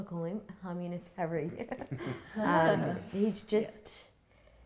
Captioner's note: all laughing